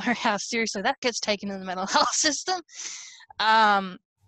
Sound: laughs

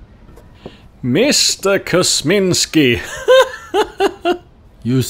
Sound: laughing

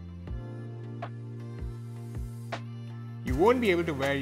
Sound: gentle upbeat music; steamer hissing

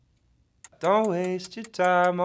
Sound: ticking

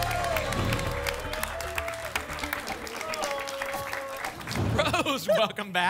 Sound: applause and cheering cont

